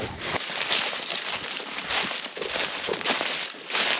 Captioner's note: rustling